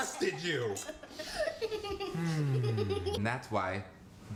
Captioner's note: laughing